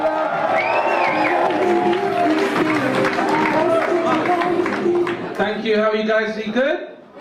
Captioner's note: audience continue cheering